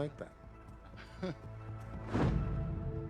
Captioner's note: chuckles